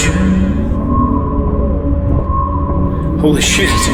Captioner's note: energy whirring